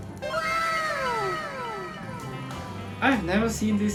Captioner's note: wow sound effect